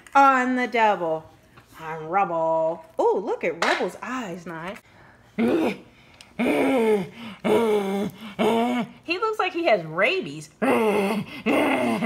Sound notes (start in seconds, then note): 0.3 voiceover; 5.4 growls